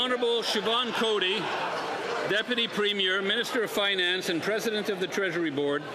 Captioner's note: applause